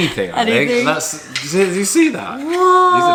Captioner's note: stutters